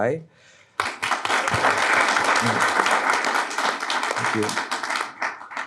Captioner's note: audience clapping